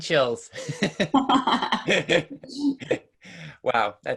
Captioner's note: laughing